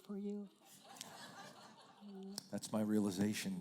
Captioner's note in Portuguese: risos da plateia